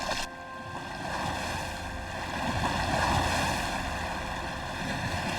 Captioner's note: waves crashing